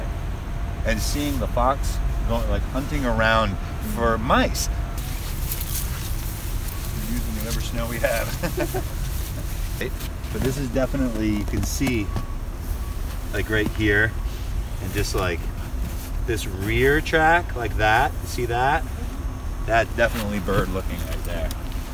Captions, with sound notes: and seeing the fox like hunting around for mice. (professor mumbles as class walks) Using whatever snow we have. (students chuckle) - But this is definitely, you can see like right here and just like this rear track like that see that, that's definitely bird looking right there.